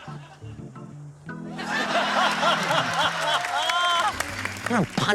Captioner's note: laughter